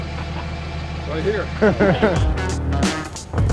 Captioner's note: laughter; funky hip hop beat